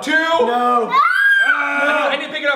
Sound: screams

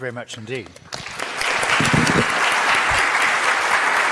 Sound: audience claps

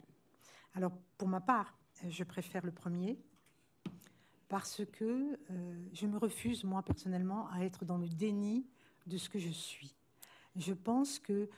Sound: speaking french

